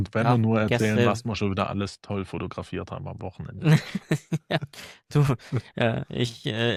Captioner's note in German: gelächter